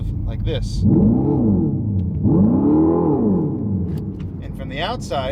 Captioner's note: Fratzonic roars